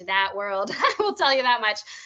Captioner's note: laughing